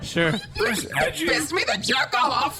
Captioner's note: audience laughter